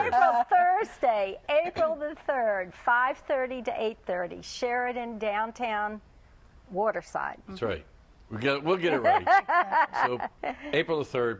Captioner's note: laughter